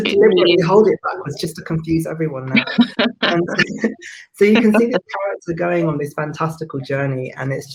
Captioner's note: laughs